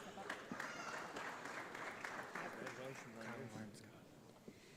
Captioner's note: audience applauds